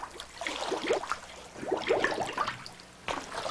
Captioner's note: gurgle of bubbles